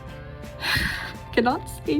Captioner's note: giant sigh